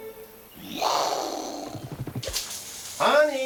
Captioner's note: imitates explosion